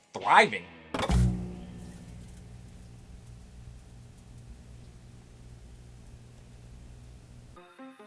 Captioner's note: static sound